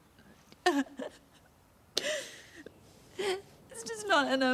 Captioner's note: Trina sobbing